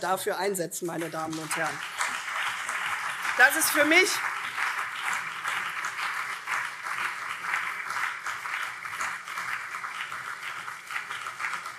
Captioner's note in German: Beifall CDU und vereinzelt SPD